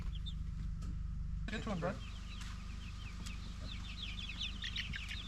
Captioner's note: birds chirping